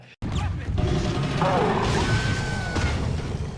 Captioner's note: Hulk grunting; metal crashing; pedestrian screams